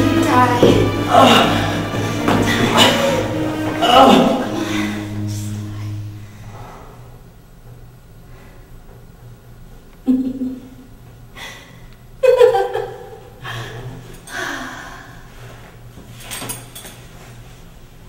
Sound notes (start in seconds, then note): 12.2 laughing; 14.3 sigh